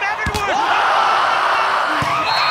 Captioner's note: screaming